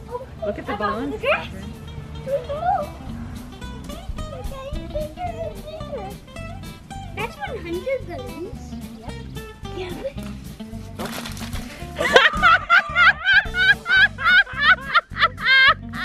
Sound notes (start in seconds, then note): 3.6 children chattering excitedly; 10.9 splattering; 11.8 women laughing